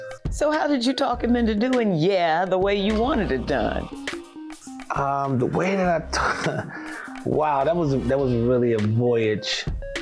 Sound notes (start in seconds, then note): 6.1 chuckling